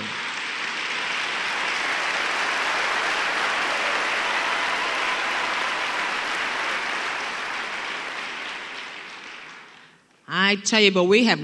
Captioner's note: applause